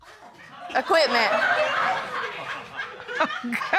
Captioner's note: laughter; laughing